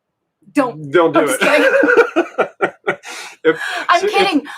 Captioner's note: both laughing